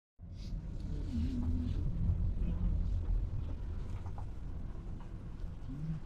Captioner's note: engine rumbles; Tim hums